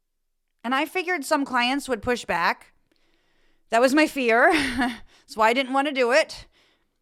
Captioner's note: laugh